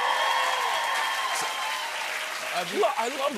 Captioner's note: cheers and applause